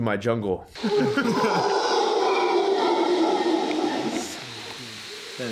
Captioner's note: howler monkeys bellowing